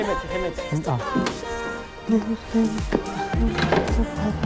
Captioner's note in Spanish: Tarareando